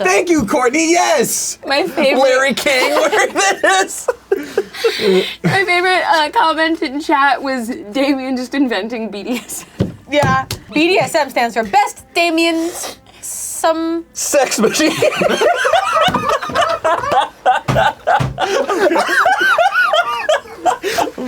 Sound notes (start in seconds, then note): 2.6 laughs; 9.6 laughs; 14.6 laughing; 16.2 all laughing